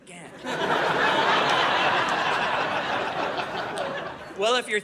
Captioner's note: audience laughing